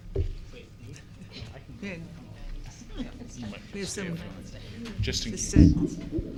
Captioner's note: board members chattering